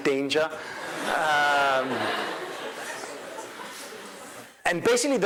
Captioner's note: crowd laughing